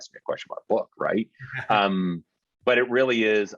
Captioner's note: chuckling